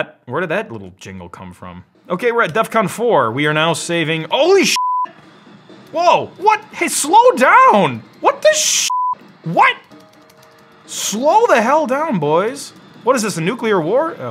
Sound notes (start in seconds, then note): 4.7 beep; 8.8 beep